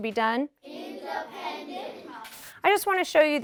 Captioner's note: class in unison